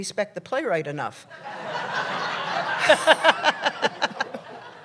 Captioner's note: laughter